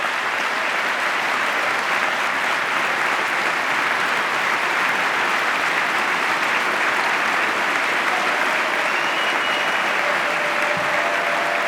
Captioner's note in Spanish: aplauso